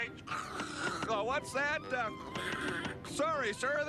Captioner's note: imitates static